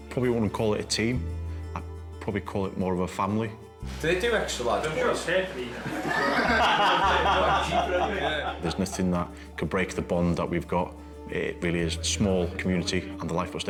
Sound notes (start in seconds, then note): 5.7 all laugh